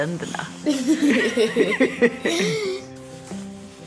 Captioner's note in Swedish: skrattar